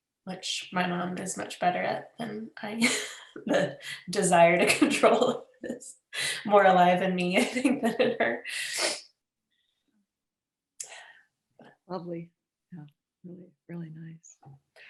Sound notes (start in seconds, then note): 3.4 laughs